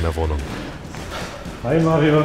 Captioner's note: snort